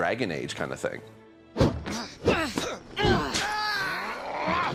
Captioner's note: grunting